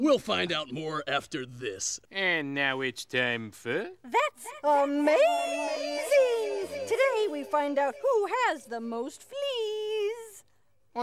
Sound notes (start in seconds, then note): 4.9 echos